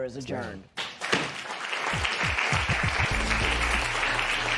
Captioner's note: applause